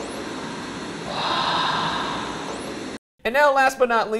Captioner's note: staticy sigh